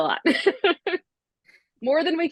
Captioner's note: laughs